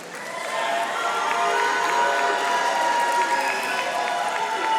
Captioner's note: audience applauding